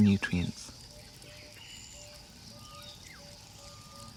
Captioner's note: birds calling in distance